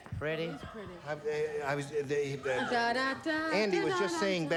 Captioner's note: stammering